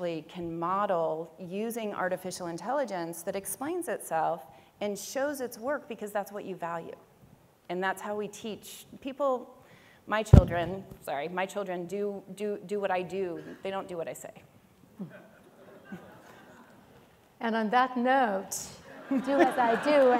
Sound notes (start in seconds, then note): 15.1 audience laughs